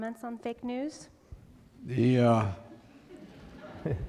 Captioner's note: laughter